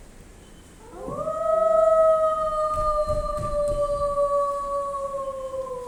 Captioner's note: A howl